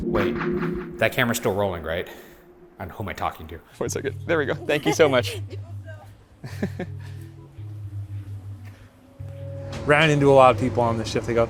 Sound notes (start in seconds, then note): 4.6 laughs